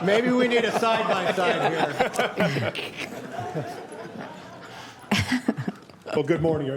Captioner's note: laughter